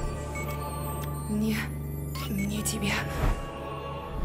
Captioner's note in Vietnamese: Tiếng Nga